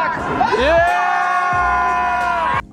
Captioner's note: crowd